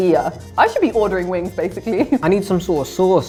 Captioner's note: chuckles